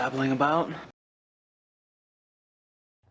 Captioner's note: silence